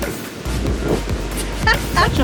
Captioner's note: laughs